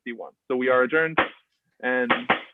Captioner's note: gavel knocks